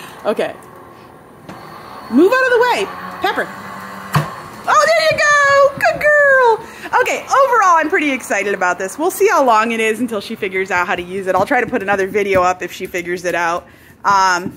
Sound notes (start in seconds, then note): 3.5 machine pops